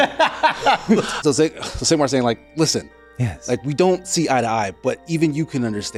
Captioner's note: laughing